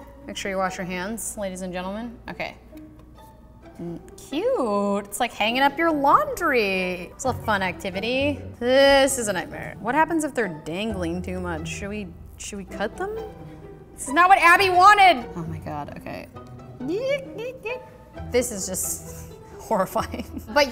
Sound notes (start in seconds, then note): 16.7 vocalizing